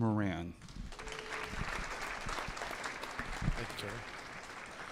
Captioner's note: audience applauding